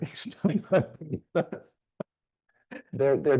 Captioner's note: chuckling